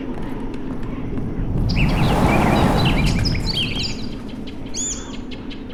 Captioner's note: swallow chirping; swallow tweets loudly repeatedly